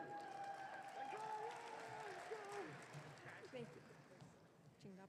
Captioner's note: audience cheering